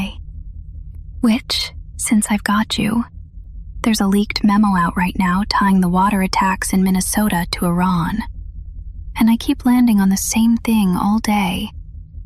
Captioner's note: whispers